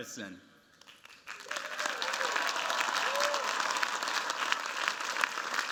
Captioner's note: cheers, applause